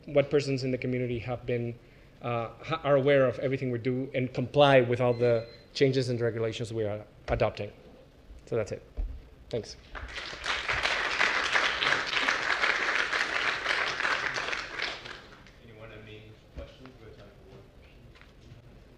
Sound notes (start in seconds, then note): 12.7 applause